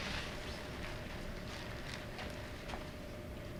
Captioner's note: none